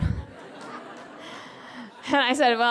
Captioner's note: laughter